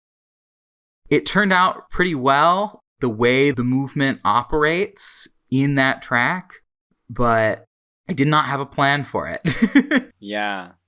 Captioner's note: laughs